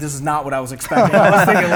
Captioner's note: laughter